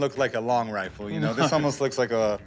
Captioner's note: chuckling